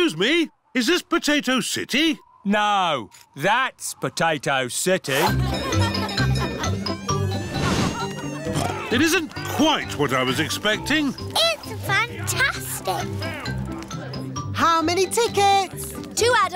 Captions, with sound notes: Excuse me, is this Potato City? No, that's Potato City. (CHEERFUL JINGLING) (OINKS) It isn't quite what I was expecting. It's fantastic! How many tickets?